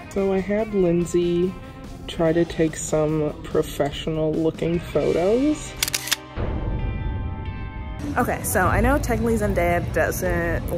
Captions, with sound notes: - So I had Lindsey try to take some professional looking photos. (camera shutter) - Okay, so I know technically Zendaya doesn't